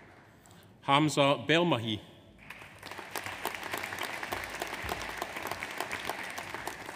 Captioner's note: audience applauds